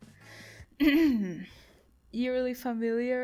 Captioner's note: cough